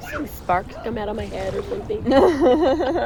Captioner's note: laughs